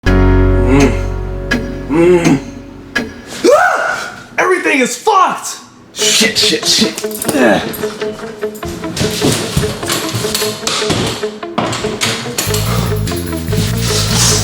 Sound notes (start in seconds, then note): 1.8 grunting; 3.4 scream; 7.2 grunting